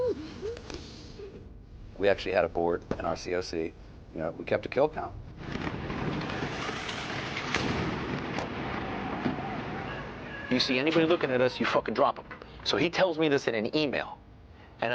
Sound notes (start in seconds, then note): 5.3 rocket hisses, blast rumbles; 8.9 troops shout